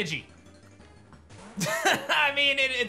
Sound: laughs

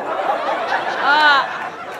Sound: in a descending tone; audience laughter

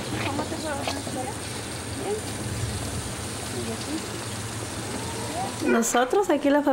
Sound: mother speaking Spanish

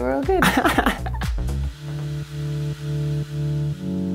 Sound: laughing

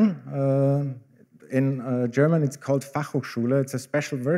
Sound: german

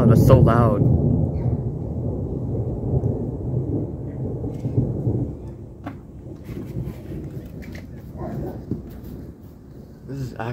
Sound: thunder quiets down and echoes; very loud, deep thunder

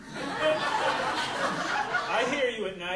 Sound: audience laughing

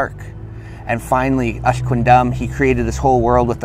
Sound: speaking Native language

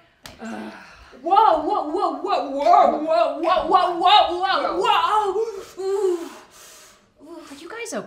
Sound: lots of Whoa's and loud noises while they try to twist their own ankles

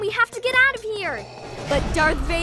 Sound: vader breathing

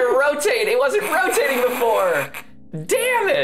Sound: snickering

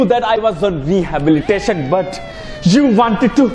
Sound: police siren

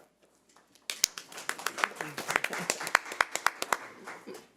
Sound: audience applauding

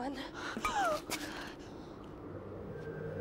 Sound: gasping; tense music

